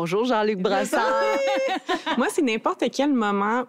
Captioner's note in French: rires